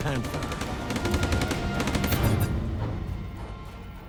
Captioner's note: gunshots firings